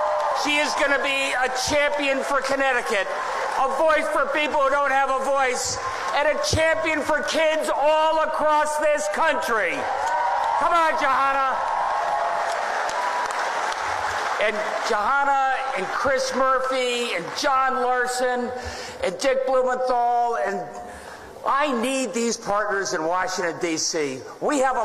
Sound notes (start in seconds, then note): 13.6 applause